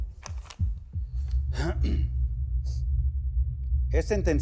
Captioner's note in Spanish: se aclara la garganta